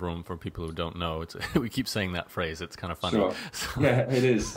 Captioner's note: laughs